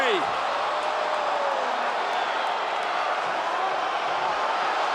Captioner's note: audience cheering